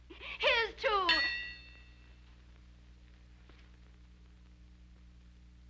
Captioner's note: glasses clinking